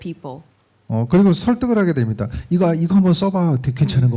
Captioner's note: speaking korean